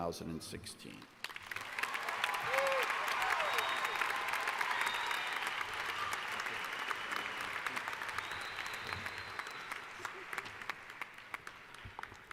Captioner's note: applause